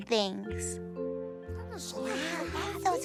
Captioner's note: all murmuring